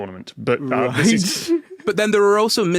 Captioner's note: laughs